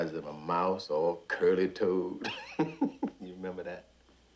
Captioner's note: laughing